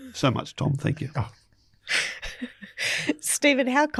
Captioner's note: chuckles